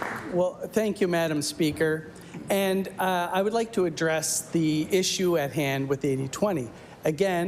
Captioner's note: applause